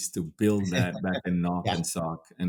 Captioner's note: laughs